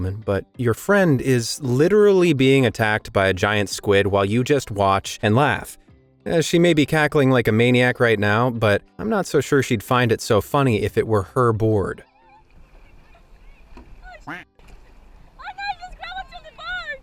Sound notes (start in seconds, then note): 13.2 women chattering